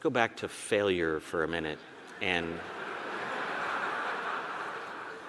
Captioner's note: audience laughing